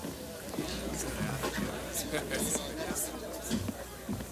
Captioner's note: people chattering